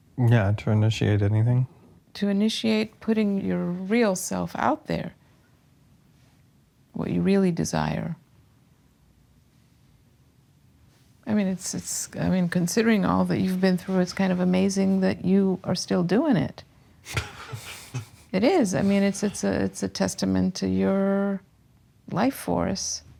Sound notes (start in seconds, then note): 17.0 laughing nervously